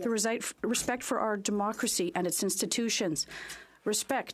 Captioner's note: speaking French